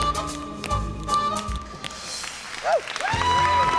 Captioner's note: song ends, Abby Lee whoops; applause and cheering